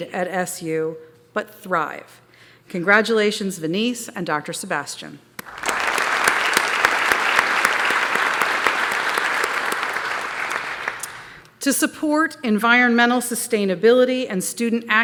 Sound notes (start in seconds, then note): 5.4 applause